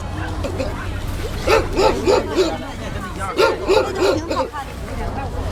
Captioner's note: dog barking